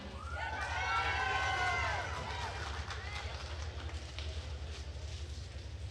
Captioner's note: attendees cheering and applauding